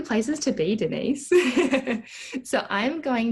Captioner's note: chuckles